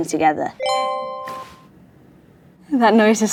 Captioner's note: tone dings